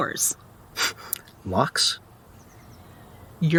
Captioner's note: scoffing